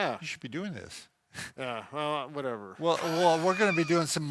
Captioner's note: chuckles